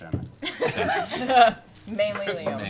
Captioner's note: laughter